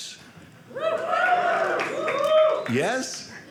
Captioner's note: audience cheering